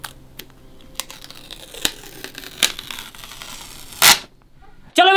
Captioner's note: tape ripping noise